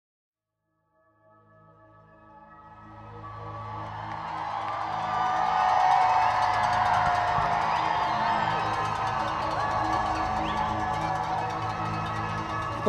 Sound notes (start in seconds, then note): 4.3 crowd noise